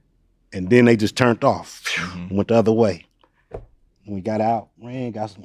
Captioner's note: blows